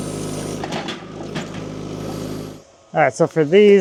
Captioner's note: wood clanging